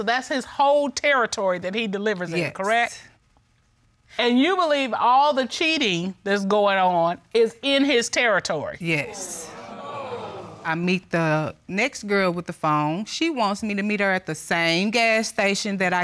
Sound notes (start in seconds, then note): 9.0 audience exclaiming